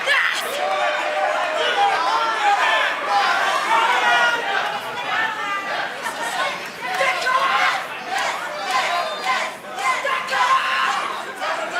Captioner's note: crowd cheering